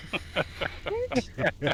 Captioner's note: laughing